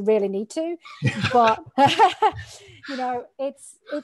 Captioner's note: laughing